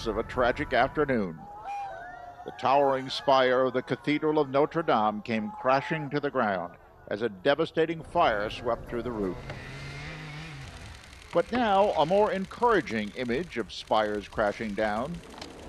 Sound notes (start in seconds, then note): 2.3 crowd crying out; 9.2 mechanical whirring